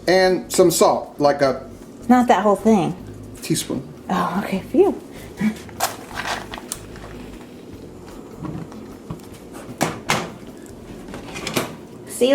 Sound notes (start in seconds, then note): 6.4 flame whooshes; 7.5 match crackles